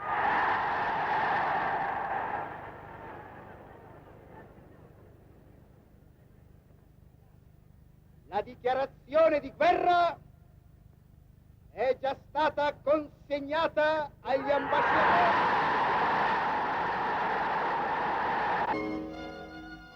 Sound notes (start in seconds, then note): 0.0 crowd cheers; 8.4 speaking foreign language; 14.3 crowd cheers